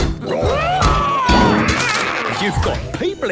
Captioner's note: all roaring